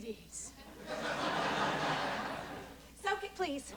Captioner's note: laughter